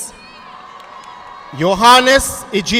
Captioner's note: audience clapping